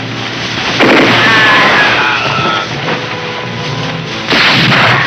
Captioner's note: gunshots blasting; The Bandit yelling; gunshot blasting